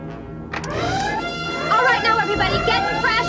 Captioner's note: alarm blaring